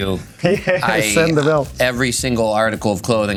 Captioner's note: laughing